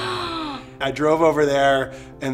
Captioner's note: gasps